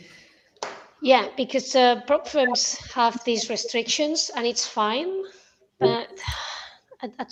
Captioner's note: sighs and gasps